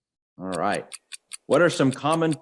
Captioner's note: clock ticks